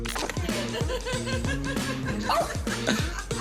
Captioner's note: woman laughing